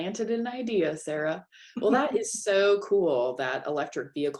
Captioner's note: laughter